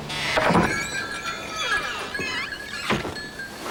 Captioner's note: opening of door; jingling of doorbell